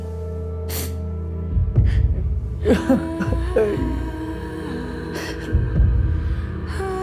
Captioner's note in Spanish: Sollozos